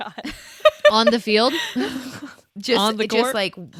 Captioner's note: laughs